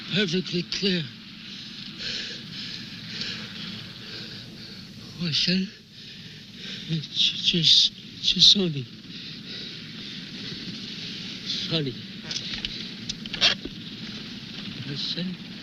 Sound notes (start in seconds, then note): 4.9 mumbling in foreign language